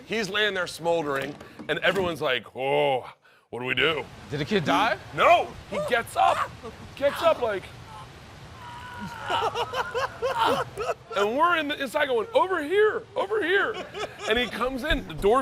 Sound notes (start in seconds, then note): 8.5 moaning; 9.0 laughter